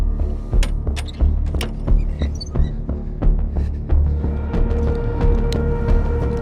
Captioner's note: dramatic music; latches creaking